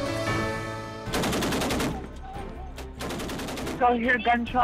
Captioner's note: rapid gunfire